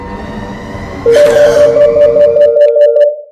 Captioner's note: phone rings loud